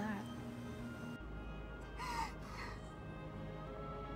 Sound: sob

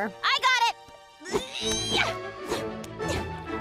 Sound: grunting

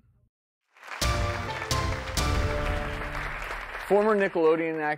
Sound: crowd applauses

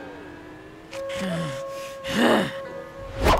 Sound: growling

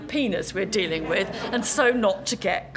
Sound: laugh

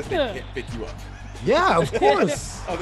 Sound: laugh

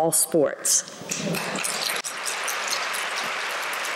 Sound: applause

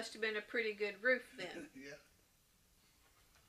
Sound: laughs

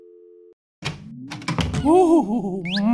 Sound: door opens and closes

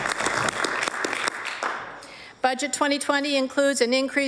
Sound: applause

